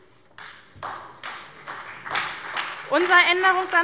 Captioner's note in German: Beifall bei der SPD